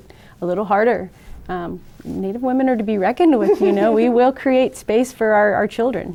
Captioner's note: all laugh